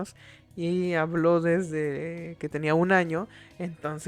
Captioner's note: Spanish